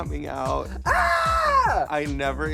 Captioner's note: screams